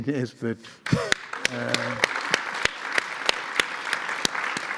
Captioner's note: audience applauds